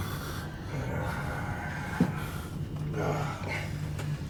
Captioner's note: Cole groans